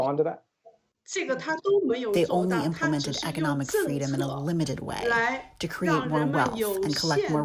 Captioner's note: through translator